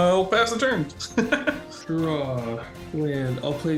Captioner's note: laughs